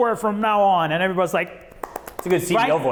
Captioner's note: claps